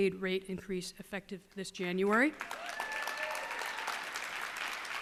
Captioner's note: cheers and applause